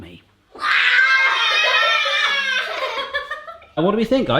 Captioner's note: shouting; laughter